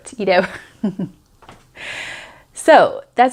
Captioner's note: chuckles